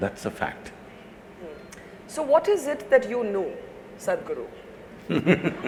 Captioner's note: Sadhguru laughs